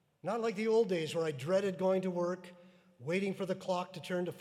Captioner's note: none